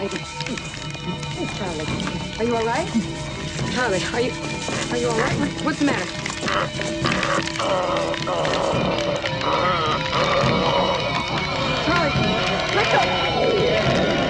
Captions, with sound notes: Charlie, are you all right? Charlie, are you all right? What's the matter? (Groaning) Charlie! Let go!